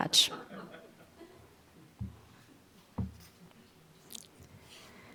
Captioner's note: audience laughing